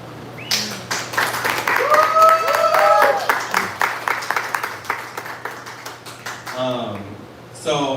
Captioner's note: applause